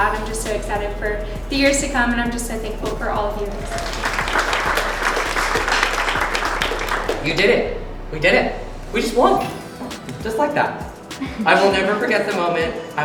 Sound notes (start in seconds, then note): 3.5 applause